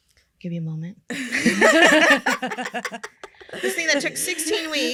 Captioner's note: laughter